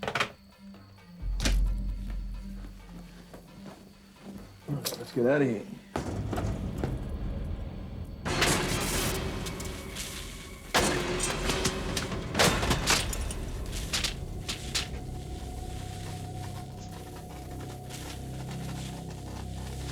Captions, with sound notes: (phone clicks) - Let's get out of here. (metal crashes) (ominous music)